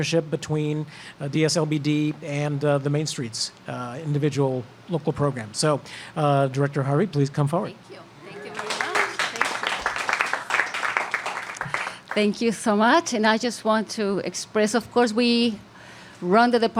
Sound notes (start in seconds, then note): 11.6 applause